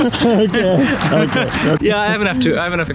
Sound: laughs

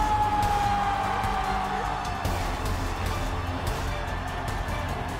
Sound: cheering

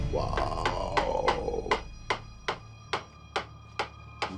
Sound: door creaking

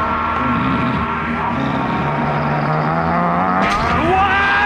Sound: grunting

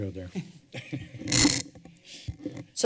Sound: laughter

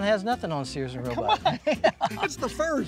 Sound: laughing

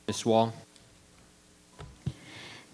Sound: microphone beeping

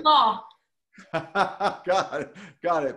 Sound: laughs

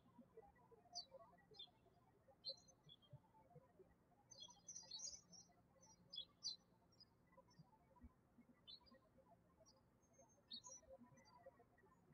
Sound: birds chirping

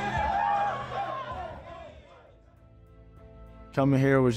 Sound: team celebrating

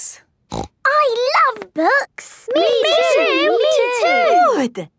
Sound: snorting

